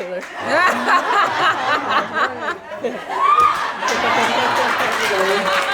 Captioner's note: audience laughing; cheering and clapping